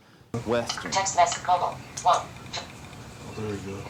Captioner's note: phone speaking